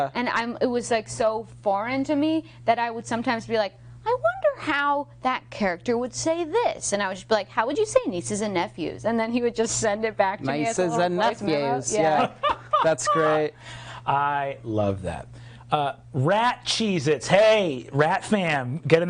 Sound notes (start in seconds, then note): 12.1 laughing